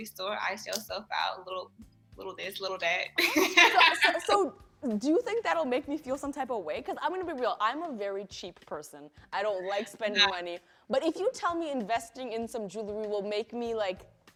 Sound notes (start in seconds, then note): 3.3 laughs